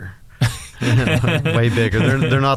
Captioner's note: laughs